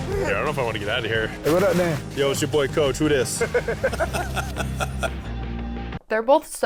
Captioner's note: laughter